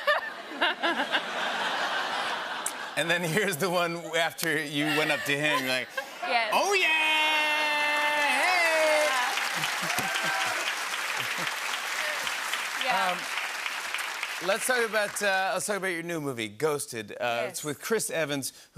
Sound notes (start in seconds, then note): 0.0 laughter; 9.2 cheers and applause